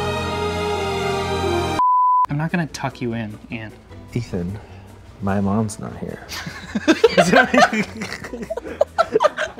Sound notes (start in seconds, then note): 1.8 high pitched beep; 6.3 laughing